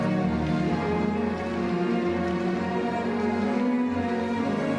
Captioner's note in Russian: none